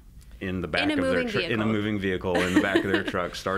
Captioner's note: laughs